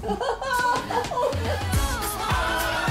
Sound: laughing

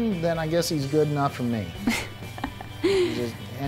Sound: laugh

